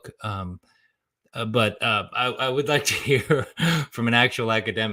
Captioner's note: laughs